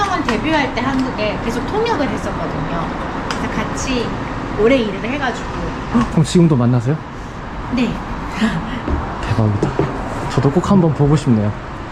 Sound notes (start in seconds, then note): 8.0 laughs